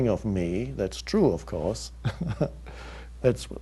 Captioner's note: chuckles